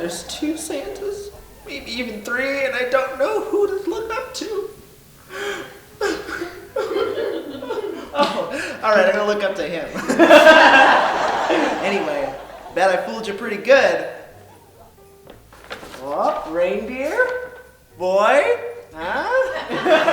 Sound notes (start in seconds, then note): 5.3 boy sobbing; 9.8 audience laughing; 19.3 audience laughing